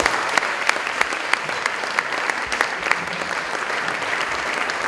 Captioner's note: applause